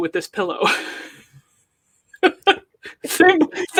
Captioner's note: laughs